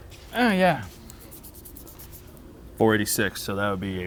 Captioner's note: finger scraping